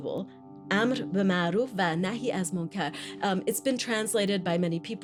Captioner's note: non-English language spoken